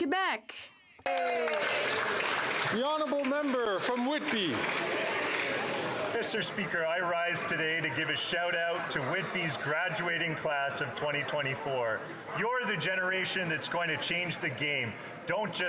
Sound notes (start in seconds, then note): 4.2 some Applause